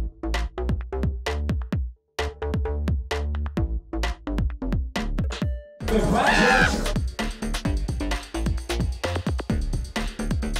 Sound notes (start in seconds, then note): 5.9 screams; 7.3 upbeat music